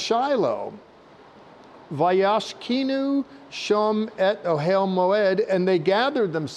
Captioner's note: speaking Hebrew